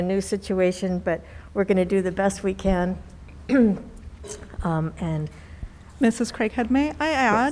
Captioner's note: clears throat